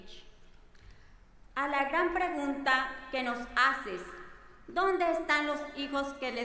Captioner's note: speaking in foreign language